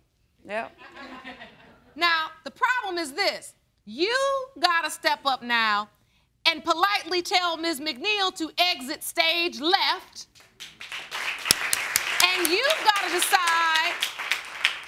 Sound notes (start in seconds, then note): 0.8 crowd laughs; 10.3 applause